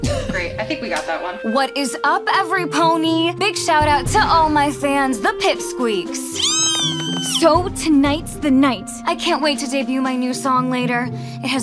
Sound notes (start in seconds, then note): 0.0 sighing; 6.3 squealing